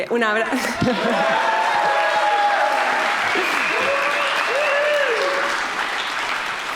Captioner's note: chuckles; audience applauding; audience cheering